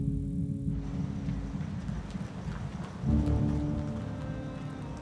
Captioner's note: insects chirping; tires rumbling